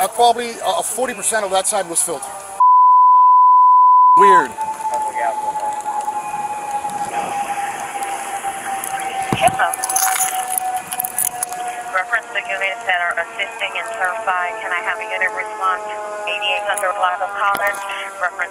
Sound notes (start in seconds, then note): 2.6 beeping; 5.2 background radio talk